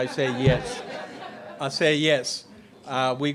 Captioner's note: laughter